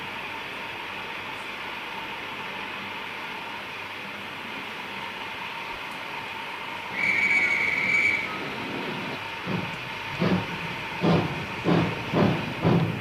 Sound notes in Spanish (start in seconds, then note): 6.9 Un guardia toca un silbato